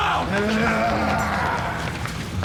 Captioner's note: grunting